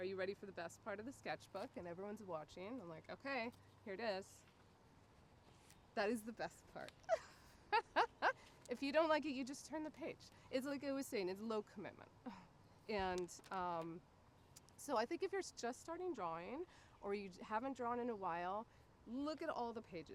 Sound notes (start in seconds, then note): 7.0 laughing